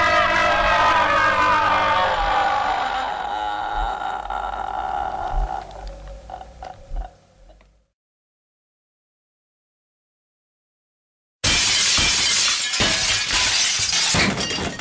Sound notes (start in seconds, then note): 2.6 scream becomes Moans; 11.4 shattered